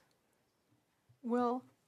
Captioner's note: speaking French